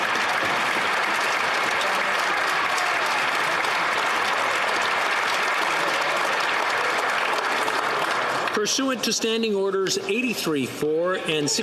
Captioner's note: some Applause